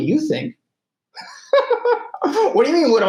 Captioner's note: laughing